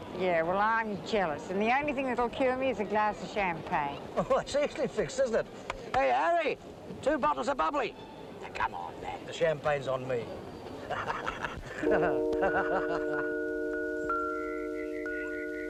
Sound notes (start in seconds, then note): 10.8 hearty laughter; 11.8 tender instrumental music